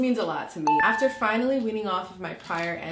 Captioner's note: beeping